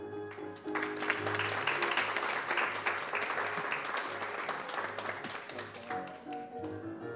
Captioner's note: applause